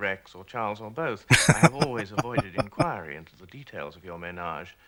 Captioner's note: laughing